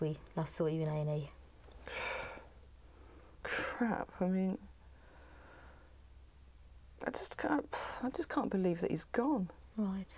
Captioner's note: sighs